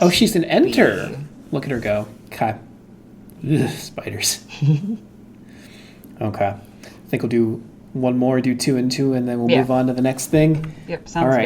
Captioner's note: shudder